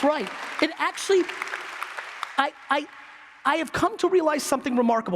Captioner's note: applause